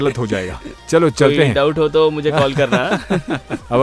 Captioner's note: laughs in panic mode